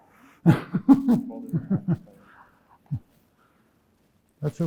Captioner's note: laughs